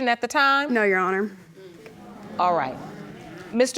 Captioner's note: audience murmurs